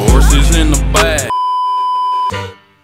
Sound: beeeeeep

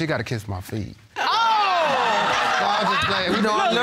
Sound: all exclaiming

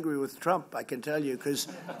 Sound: laughter

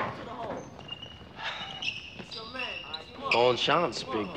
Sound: sneaker squeaking

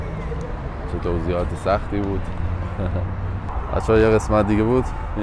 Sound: giggle

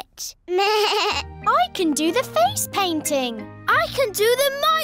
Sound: bleats

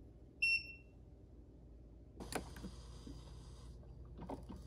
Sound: coffee maker beeps

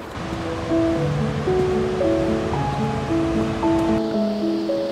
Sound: waterfall humming

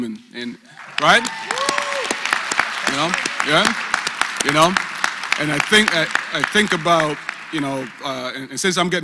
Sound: applause

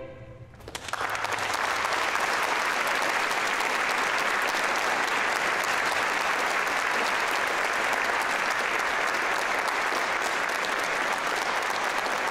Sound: applause

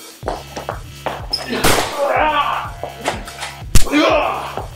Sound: struggling; bang!

